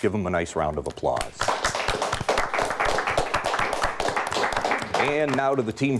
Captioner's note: audience applauding